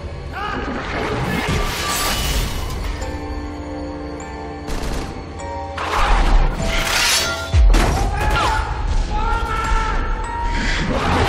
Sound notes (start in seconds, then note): 2.3 music box playing; 6.9 clanging; 8.9 shouting